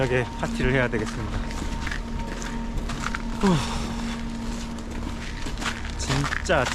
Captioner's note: sighs